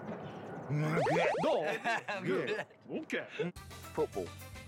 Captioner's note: speaking Japanese